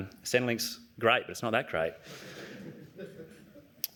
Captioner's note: laughter